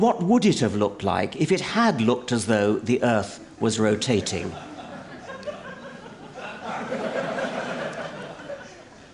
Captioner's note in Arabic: ضحك